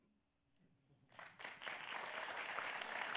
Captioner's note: applause